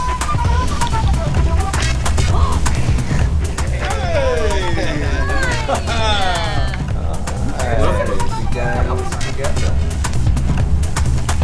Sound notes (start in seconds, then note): 2.4 gasping